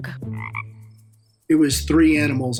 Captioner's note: frog croaks